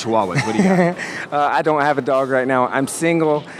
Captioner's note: laughs